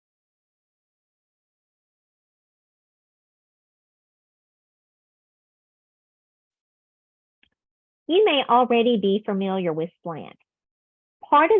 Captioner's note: silence